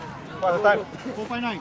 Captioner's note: crowd Talking